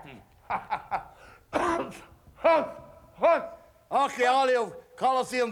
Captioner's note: laugh